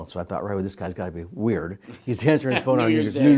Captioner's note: laughs